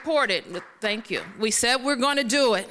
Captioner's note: applause